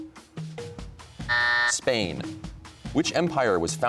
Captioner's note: buzzer sounds